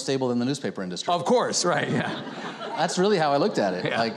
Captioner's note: audience chuckling